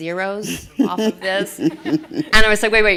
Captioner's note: laughter